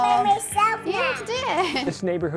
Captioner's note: children chatting